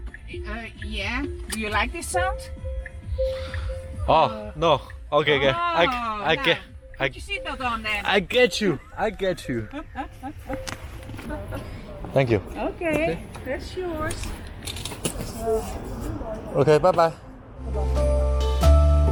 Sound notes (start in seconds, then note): 1.2 security alert tone